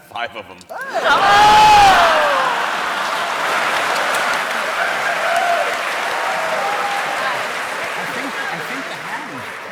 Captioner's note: applause